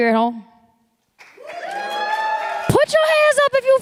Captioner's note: applause